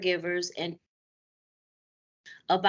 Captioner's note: audio Break